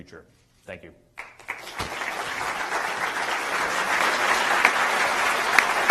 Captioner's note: applause